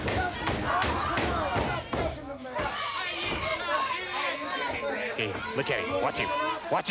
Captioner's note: crowd chatter